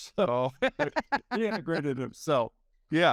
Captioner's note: laughing